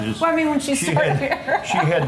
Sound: laughs

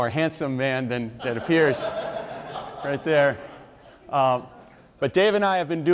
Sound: audience members laugh

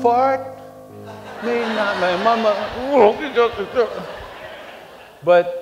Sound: laughter

